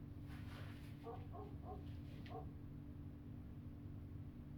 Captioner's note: dog barking